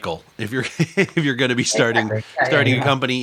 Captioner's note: laughter